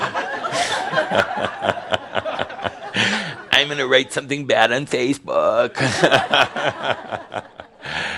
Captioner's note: laughter